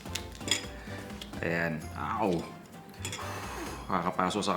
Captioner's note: blows